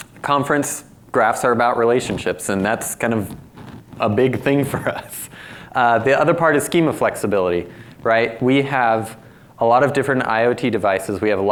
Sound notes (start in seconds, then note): 5.5 laughs